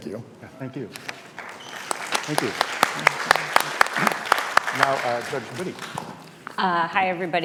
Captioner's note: applause